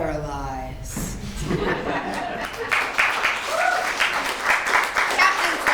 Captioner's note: applause